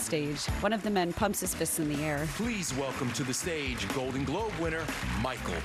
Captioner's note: applause